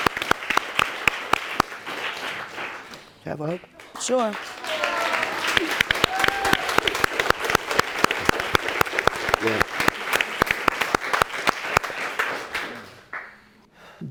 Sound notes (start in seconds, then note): 5.3 people cheering